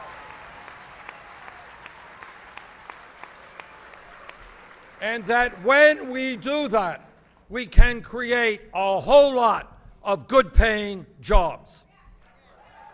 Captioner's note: applause